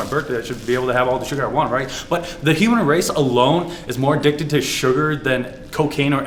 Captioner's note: short Breath